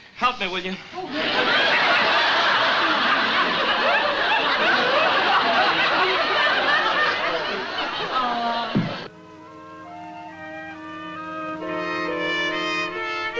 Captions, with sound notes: Help me, will you? (audience laughs) - Aw. (soft orchestral music)